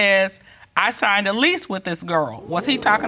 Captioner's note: judge dana reading